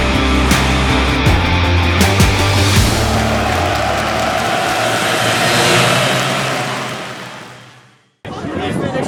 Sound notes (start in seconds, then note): 1.3 karts cross finish line; 4.6 cheering